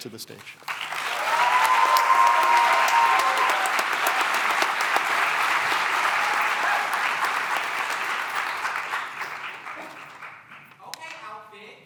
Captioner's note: cheering and applause